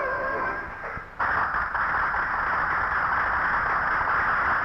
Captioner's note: audience applauding